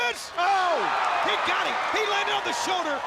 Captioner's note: crowd cheering